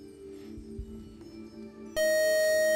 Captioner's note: time-out buzzer